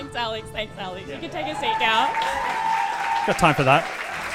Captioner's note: audience cheering